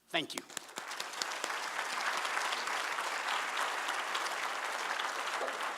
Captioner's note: applause